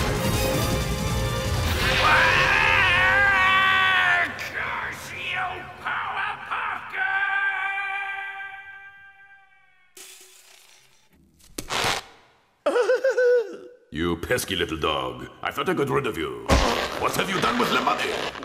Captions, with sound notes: (screams) Curse you, Powerpuff Girls! (glass shatters faintly) (zipper pulls) (laughs) - You pesky little dog. I thought I got rid of you. What have you done with the money?